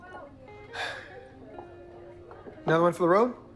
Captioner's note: sighs